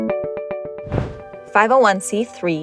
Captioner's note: upbeat music; air whooshing